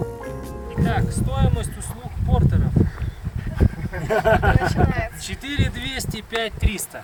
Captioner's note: laughter